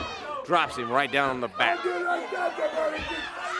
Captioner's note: crowd cheering